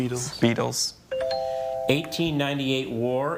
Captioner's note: tone chimes